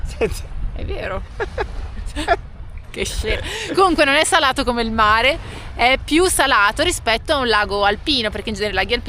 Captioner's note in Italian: risate